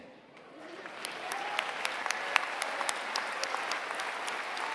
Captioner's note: applause